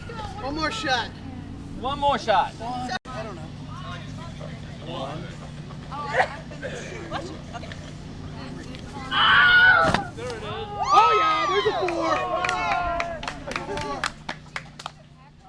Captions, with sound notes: - One more shot. - 1...2... [ Screams ] - There it is. [ Cheers & Applause ]